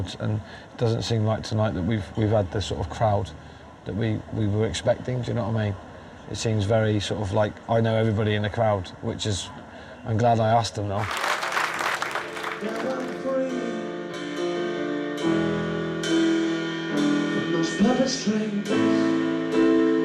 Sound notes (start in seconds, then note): 11.0 audience clapping; 19.8 melodic piano music